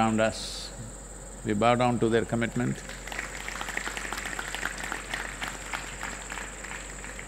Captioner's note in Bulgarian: Аплодисменти